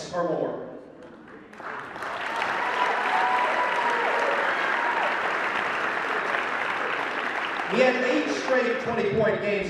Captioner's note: cheering